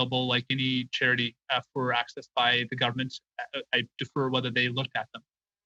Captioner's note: speaking French